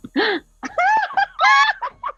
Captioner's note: gasps; laughs